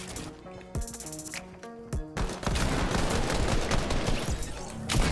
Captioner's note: multiple guns firing